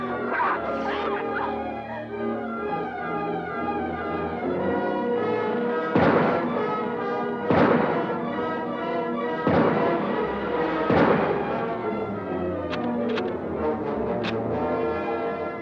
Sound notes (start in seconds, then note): 2.5 adventurous music; 6.1 gunshots blasting; 12.7 gun cocks